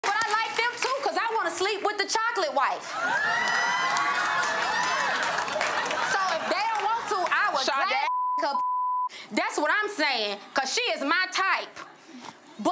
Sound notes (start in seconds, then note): 2.9 crowds laughs and applauds; 8.0 beep